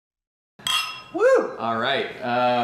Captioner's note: clinking glasses